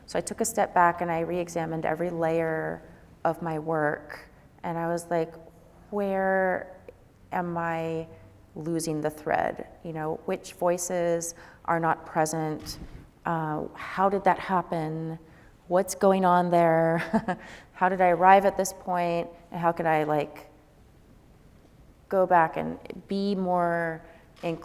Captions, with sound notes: So I took a step back and I reexamined every layer of my work. And I was like, "Where am I losing the thread? Which voices are not present? How did that happen? What's going on there? (chuckles) How did I arrive at this point?" And how could I go back and be more inclusive,